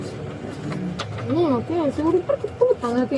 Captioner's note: speaking in foreign language